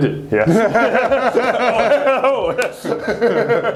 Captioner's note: laughing